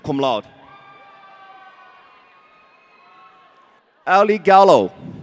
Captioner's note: audience cheering